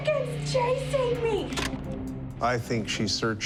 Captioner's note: clicking